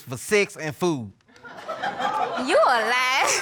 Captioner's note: chuckling